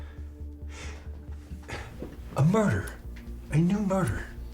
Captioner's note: gasping